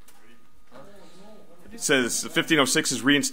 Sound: overlapping chattering

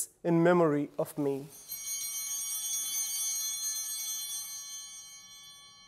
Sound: bell ringing

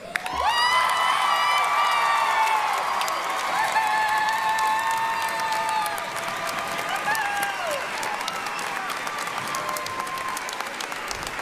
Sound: applause, cheering

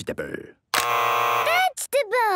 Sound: both buzzing

